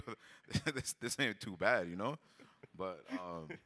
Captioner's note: chuckles